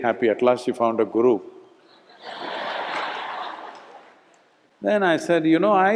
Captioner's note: laughter